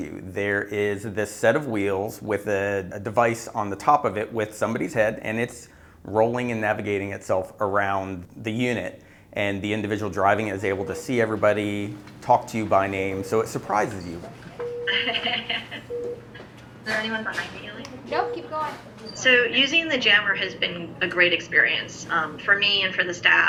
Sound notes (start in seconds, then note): 14.9 laugh